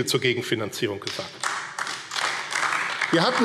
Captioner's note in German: Beifall AfD